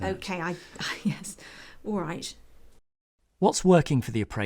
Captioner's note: laugh